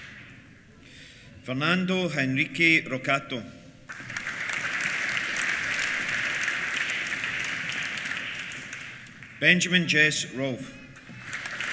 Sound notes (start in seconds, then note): 3.8 applause